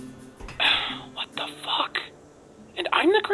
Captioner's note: sigh